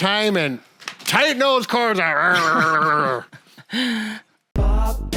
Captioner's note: grunting